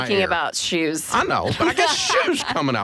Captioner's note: laughing